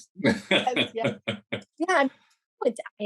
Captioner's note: laughs